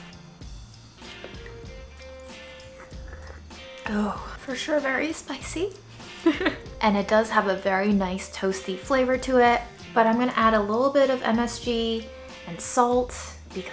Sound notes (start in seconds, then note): 0.8 slurping; 2.6 sighing; 6.1 chuckling